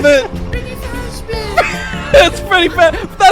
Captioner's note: laughter